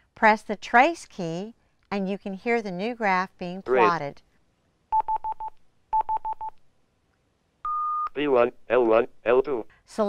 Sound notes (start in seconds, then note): 7.6 two tones and a beep